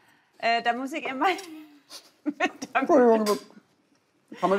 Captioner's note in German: Lachen, Stammeln